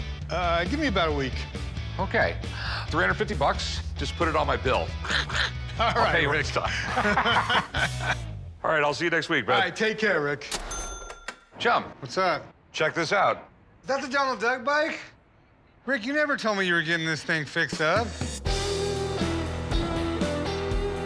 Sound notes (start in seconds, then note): 4.7 quacking; 18.0 rock music